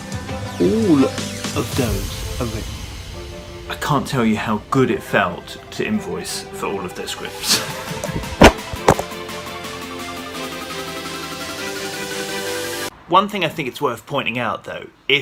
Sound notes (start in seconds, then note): 7.5 laughs; 8.0 phone clatters; 9.2 upbeat music